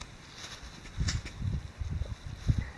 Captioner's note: wind blowing